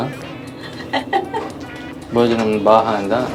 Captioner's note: laughing